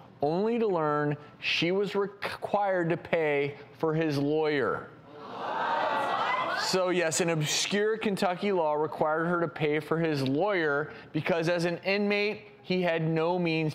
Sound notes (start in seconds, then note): 5.2 audience protests